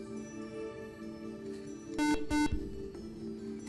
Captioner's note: beep